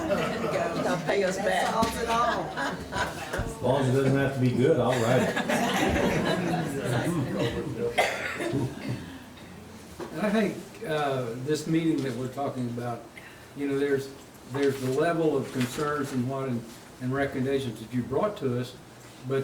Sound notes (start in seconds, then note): 4.9 all laughs